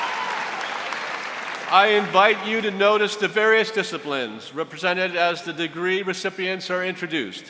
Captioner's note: applause